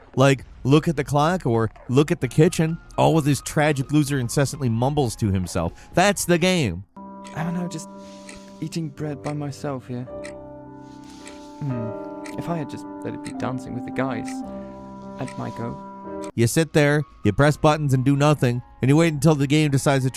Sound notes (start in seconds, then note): 11.0 clock ticks